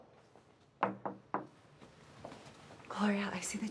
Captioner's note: knock on door